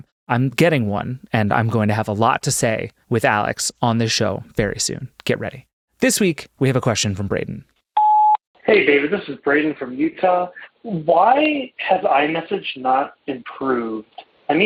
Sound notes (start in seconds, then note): 8.0 tone ringing